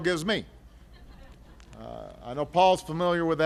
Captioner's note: laughter